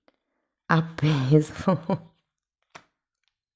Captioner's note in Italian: risate